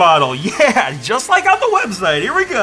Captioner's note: laughs